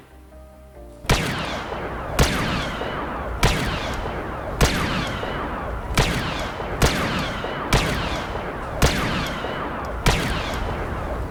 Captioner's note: laser firing